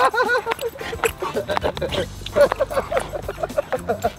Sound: Rocky laughs; shoes squeaking; Rocky laughs

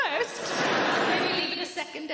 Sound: audience laughing

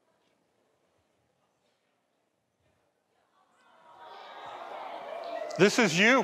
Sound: audience cheers

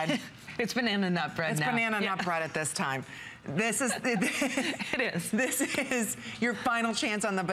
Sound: laughter

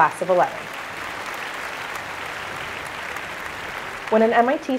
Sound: applause

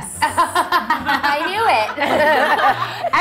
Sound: laughs

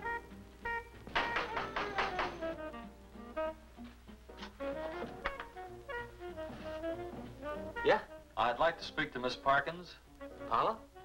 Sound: knock on door

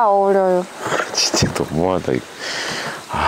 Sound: laughing

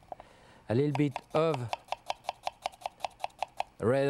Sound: knife chopping

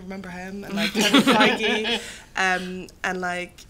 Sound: laughter

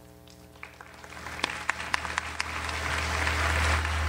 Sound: audience applauds

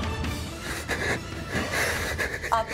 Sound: breathing heavily

